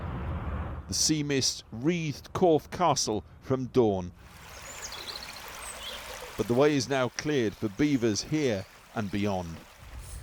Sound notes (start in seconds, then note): 1.7 voice-over